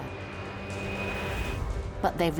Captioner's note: aeroplane whooshing